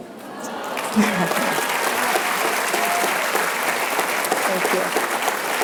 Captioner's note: applause